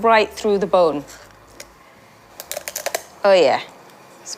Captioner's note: bones crunch